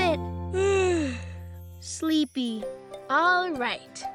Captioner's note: yawns